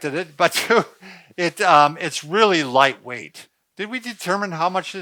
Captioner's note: laughs